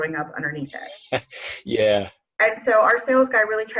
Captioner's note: laughs